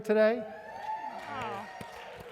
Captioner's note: applause